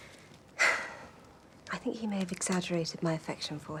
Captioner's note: sighs